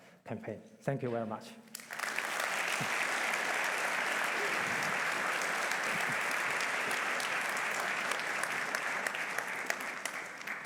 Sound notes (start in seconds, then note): 1.7 applause